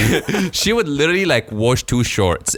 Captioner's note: laughing